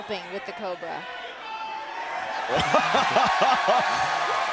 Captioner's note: crowd cheering